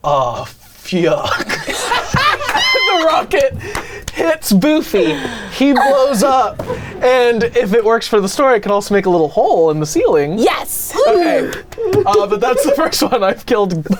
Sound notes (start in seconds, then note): 1.2 group laughing & clapping; 11.0 hand claps